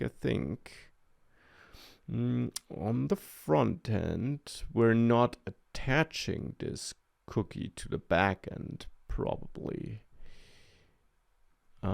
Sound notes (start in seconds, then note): none